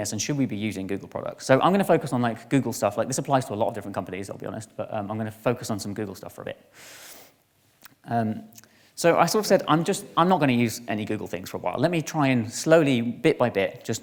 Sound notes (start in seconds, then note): none